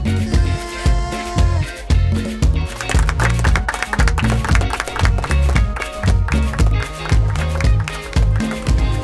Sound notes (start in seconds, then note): 2.2 everyone clapping and cheering